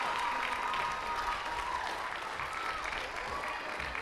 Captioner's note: cheers and applause